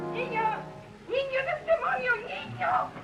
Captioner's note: speaking spanish